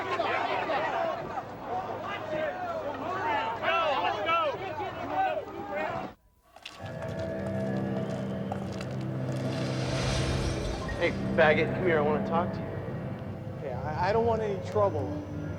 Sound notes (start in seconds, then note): 0.0 continued din of protesters and police; 6.5 footsteps on concrete